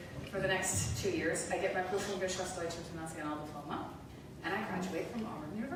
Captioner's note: speaking German